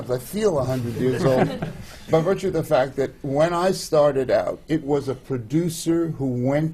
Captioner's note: laughter